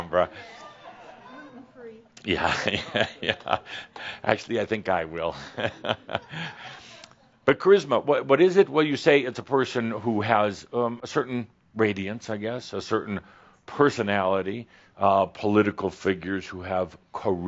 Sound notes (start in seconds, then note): 2.1 some chuckles and someone says “Gluten free”; 5.3 Adamus chuckles